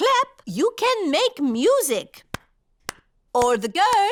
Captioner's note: clapping